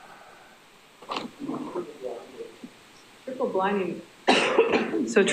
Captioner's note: man speaks faintly